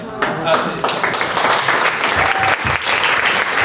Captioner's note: applause